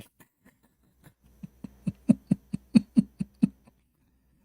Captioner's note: Ketawa